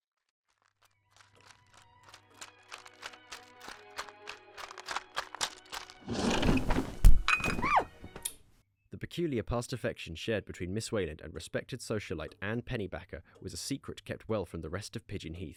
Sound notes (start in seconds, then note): 0.0 sable's footsteps fade in; 6.0 window opens; 7.4 cup and saucer clatter, woman yelps; 8.3 radio button clicks, music stops